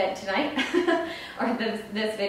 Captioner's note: laughing